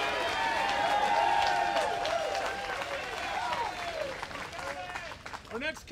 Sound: applause

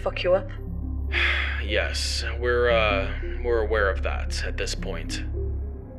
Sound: sighs

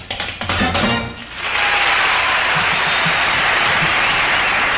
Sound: applause

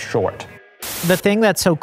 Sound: static buzzing

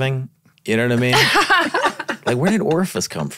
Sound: laughing

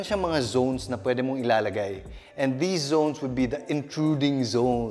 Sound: none

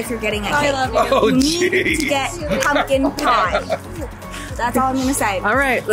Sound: laughs

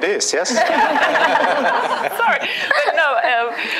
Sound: laughter

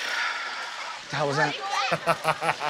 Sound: sighs

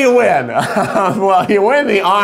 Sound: laughs

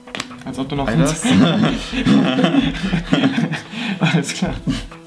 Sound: laughter

